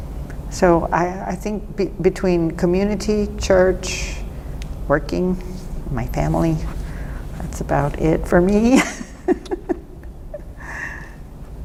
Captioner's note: laughs